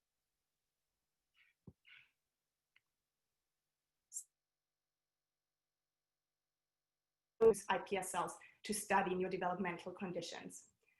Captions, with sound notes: (audio cuts out) those iPS cells to study neurodevelopmental conditions.